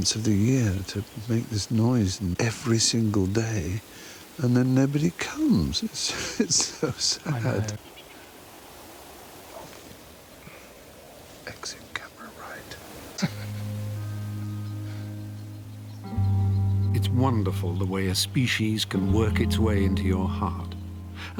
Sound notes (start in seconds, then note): 13.1 Mark chuckles; 13.1 gentle music